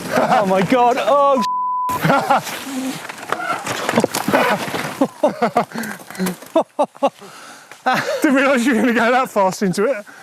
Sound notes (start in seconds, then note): 1.4 beep; 1.9 laughs